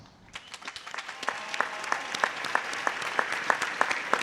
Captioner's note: applause